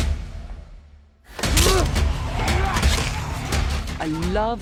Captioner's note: snarling; grunting